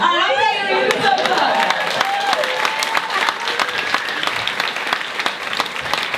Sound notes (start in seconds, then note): 2.4 audience cheers